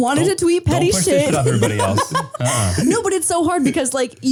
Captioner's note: laughing